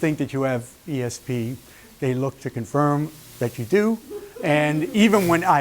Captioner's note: laughter